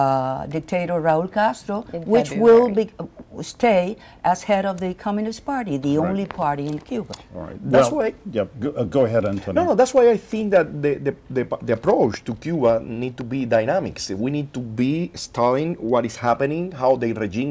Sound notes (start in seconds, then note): 8.2 spanish